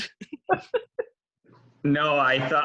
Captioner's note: laughing